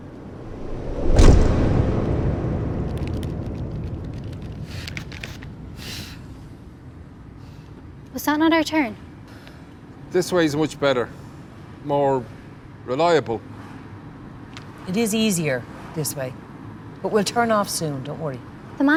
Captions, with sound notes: [THUD] Was that not our turn? This way's much better. More... reliable. It is easier, this way. But we'll turn off soon, don't worry.